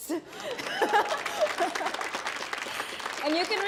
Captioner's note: audience applauding; chuckles